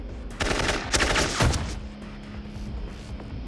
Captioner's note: gunfire